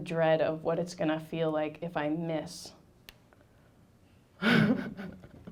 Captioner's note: laughing